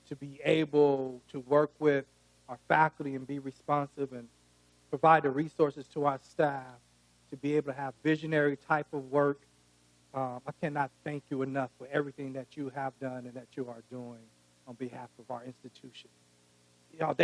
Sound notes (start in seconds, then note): none